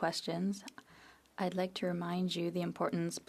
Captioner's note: speaking French